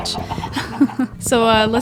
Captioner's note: laughs